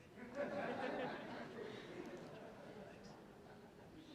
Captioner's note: laughter